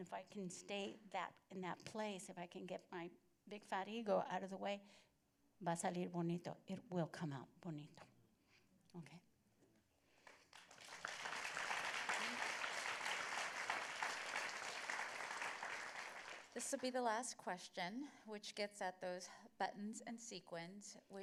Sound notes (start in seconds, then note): 10.2 applause